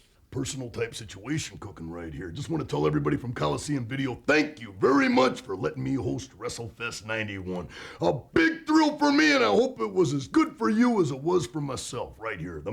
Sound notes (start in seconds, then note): none